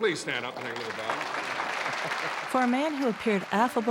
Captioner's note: applause